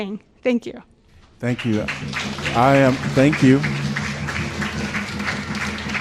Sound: applause

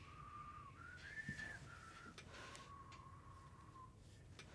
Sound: whistling

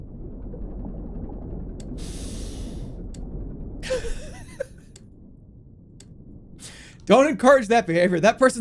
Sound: laughs

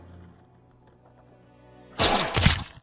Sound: gun shot; orchestral music fades out

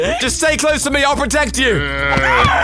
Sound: moaning; aaah!

